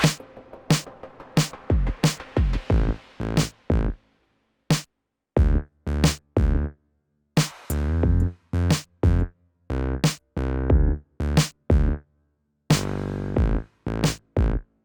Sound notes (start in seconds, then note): none